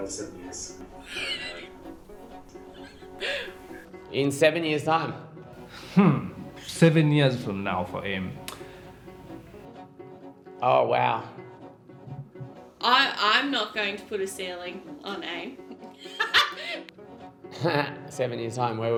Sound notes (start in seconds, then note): 1.0 laughing; 16.0 laughing